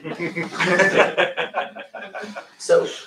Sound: laughter

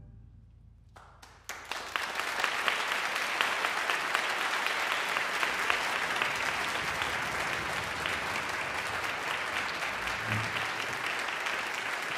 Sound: audience applause

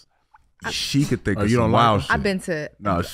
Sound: Amber scoffs

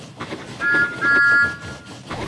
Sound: thomas whistling; whistle charging

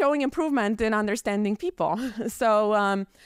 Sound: chuckles

